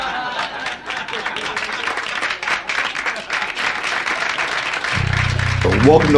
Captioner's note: laughter ** Applause